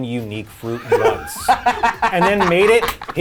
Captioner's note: laughing